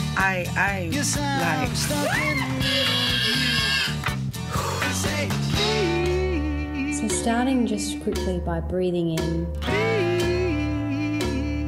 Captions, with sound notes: I, I’m like… [screams] [sighs heavily] So, starting just quickly by breathing in…